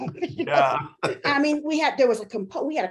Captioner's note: both laughing